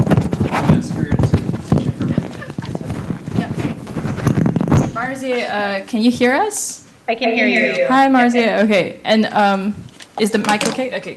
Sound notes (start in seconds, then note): 3.0 strong microphone rumble